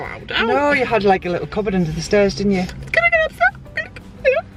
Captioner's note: cries